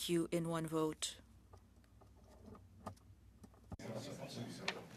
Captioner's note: speaking french